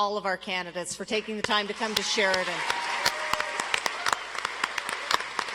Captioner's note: audience applauds